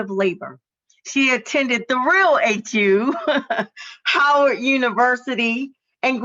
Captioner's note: laughs